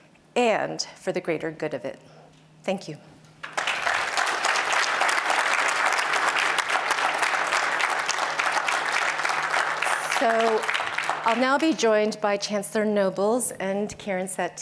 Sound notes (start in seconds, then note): 3.4 applause